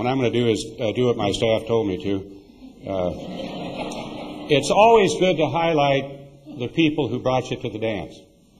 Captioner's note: laughter